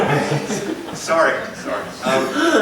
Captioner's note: laugher